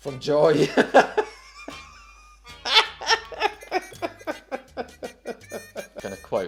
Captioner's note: laughter